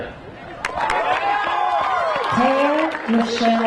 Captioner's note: crowd cheering; crowd applauding